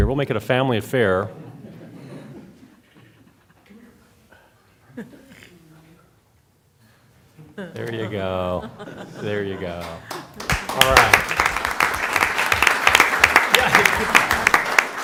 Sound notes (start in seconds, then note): 1.4 laughter; 9.8 applause